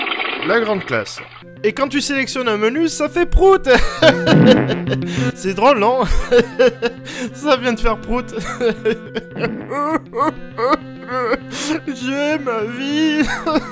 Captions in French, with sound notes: La grande classe ! Et quand tu sélectionne un menu , ça fait prout ! (rire) C'est drôle non ? Ah ah ah ! Ça vient de faire prout ! *pleurs* Je hais ma vie !